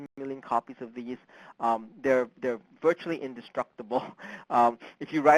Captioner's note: laughs